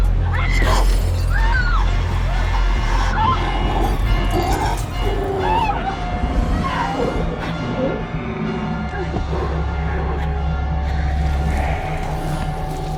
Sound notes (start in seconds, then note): 0.2 screaming; 4.0 growling